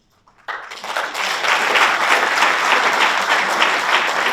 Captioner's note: audience applauds